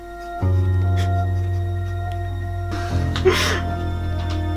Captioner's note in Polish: płacz